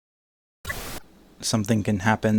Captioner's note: static